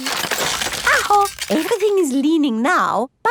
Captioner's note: house creaking